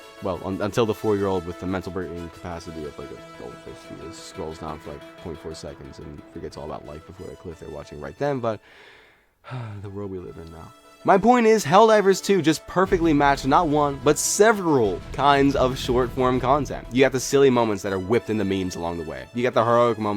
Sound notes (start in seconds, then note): 9.4 sighs